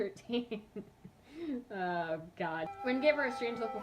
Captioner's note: laughs